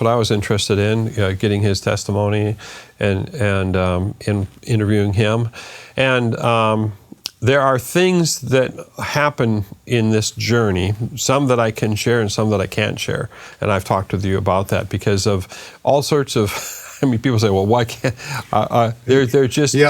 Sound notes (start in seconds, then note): 16.4 laughs